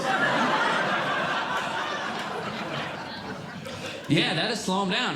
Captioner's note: audience Laughing